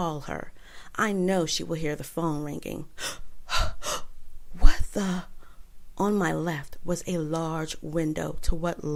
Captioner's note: gasp